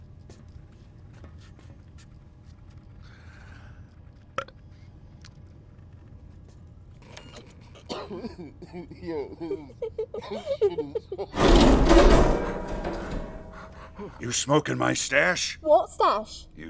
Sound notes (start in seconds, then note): 3.8 burp